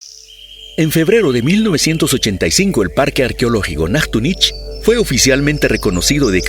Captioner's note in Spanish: En español